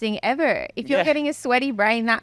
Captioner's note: laughing